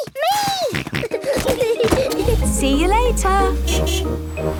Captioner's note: kids giggling; snorting; honking